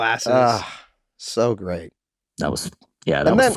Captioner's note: Rob sighing proudly